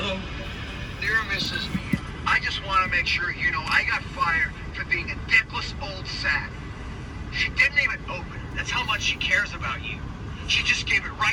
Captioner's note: talking sounds of a movie